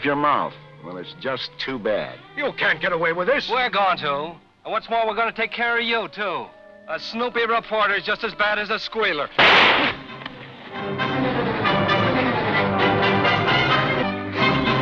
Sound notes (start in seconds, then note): 9.4 gun firing; 11.4 dramatic music